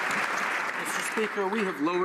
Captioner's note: some Applause